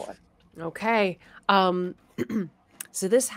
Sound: clears throat

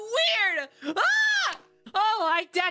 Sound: yelling

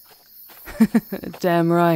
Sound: she laughs at your quick remark

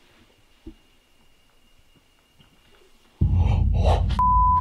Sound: fast footsteps

